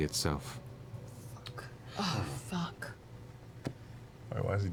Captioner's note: whispering